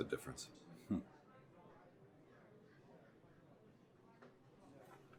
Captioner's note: Alan chuckles